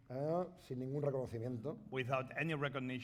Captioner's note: speaking spanish